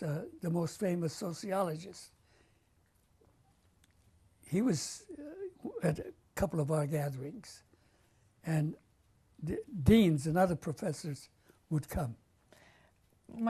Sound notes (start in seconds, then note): 1.6 pauses for 3 seconds